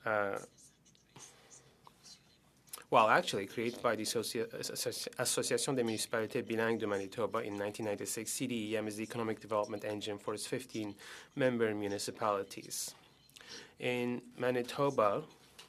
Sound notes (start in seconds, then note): 9.3 speaking French